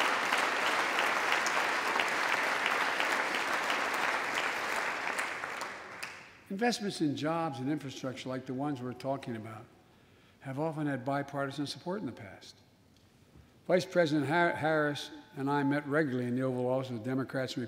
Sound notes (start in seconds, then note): 4.9 applause